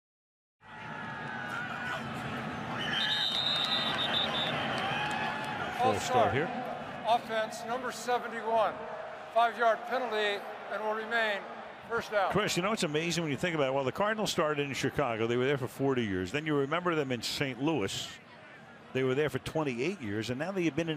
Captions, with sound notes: [whistle] With a false start here. False start, offense, number 71. 5-yard penalty and will remain first down. Cris, you know what's amazing? When you think about, well, the Cardinals started in Chicago, they were there for 40 years. Then if you remember them in St. Louis, they were there for 28 years.